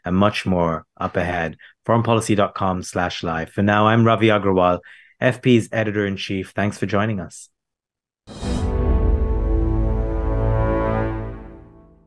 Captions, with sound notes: and much more up ahead, foreignpolicy.com/live. For now, I'm Ravi Agrawal, FP's editor in chief. Thanks for joining us. (logo swooshes) (tense music)